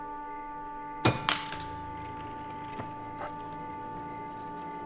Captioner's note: glass shattering; dramatic music